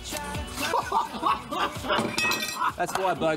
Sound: laughing

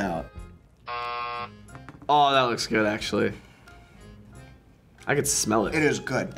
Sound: buzzer rings

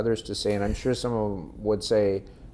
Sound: laughing

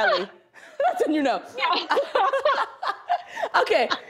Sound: laughter

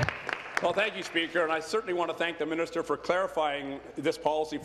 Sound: applause

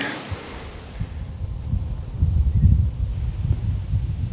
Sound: quiet wind

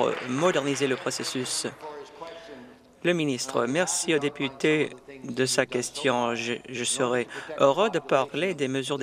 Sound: some Applause

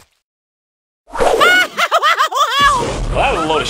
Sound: Mario screams; Mario screams some more

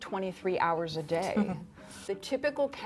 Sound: laughs

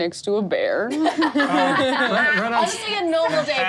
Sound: laughs

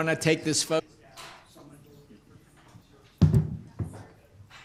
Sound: group chatter

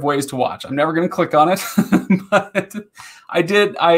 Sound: laughing

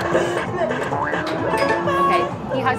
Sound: game chimes

